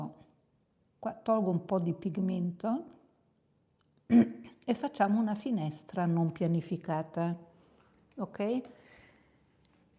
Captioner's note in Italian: schiarire la voce